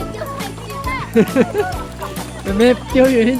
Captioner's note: laughs